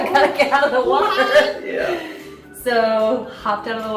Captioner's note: laughter